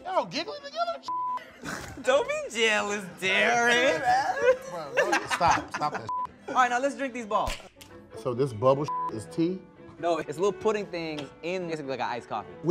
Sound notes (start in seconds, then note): 1.1 beep; 6.1 beep; 8.9 beep